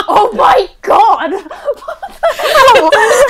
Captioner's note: laughs